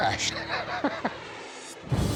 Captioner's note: laughs